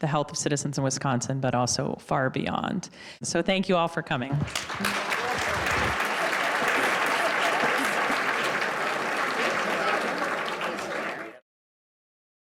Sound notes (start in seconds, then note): 4.3 audience applauding; 4.3 overlapping chatter